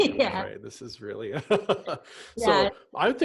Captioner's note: laughs